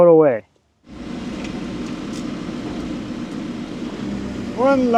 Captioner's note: lift whirring